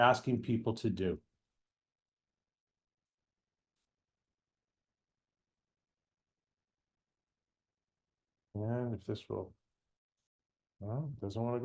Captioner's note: pause